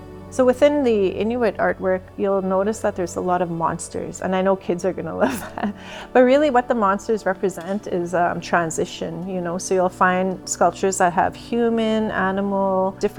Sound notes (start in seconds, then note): 5.2 chuckles